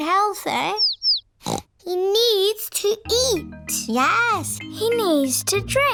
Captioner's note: snorts